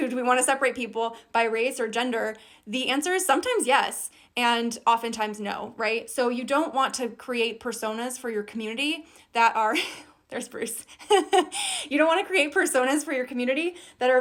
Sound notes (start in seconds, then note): 10.8 giggles; 11.0 laughs